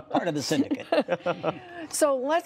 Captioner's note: laughter